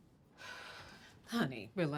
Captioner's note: exhales deeply